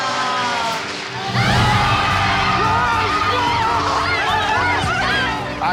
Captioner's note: cheering